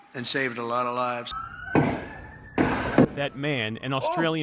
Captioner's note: gunshots